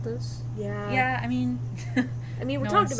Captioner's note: laughs